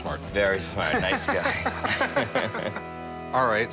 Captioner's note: laughter